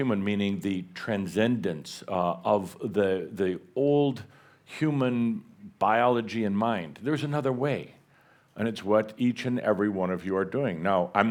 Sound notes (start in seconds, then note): none